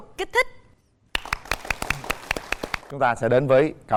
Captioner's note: applause